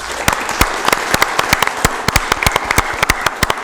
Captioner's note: applause